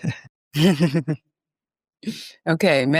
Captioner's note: laughs